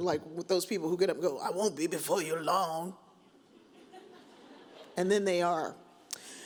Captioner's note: audience chuckles